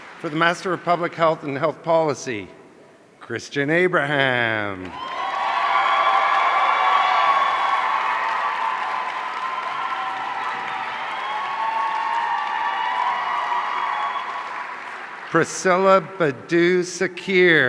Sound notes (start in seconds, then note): 5.2 audience cheering